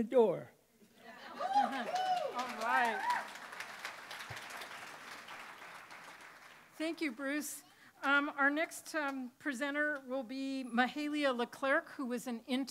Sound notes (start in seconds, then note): 3.9 cheering and applause